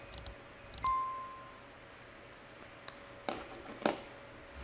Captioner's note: ding noise